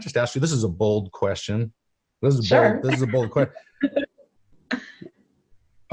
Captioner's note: laughs